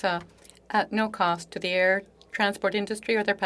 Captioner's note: speaking French